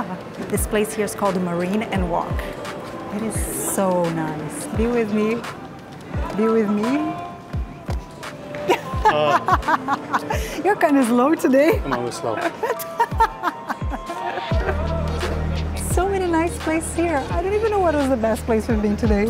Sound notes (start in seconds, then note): 8.6 laughs